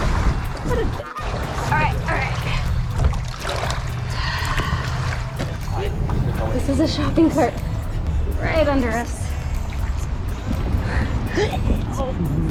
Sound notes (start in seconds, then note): 3.8 water splashing; 12.2 atmospheric throwing up